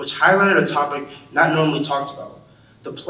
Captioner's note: none